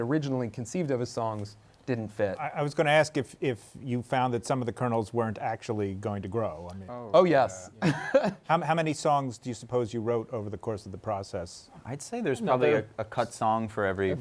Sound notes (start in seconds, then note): 7.8 laughs